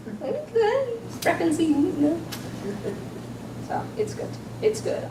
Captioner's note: low mumbling